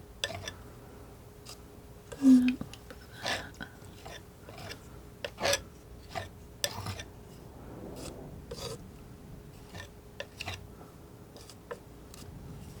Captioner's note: scraping